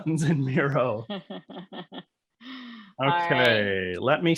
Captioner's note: laughing